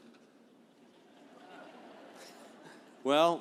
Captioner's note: laughing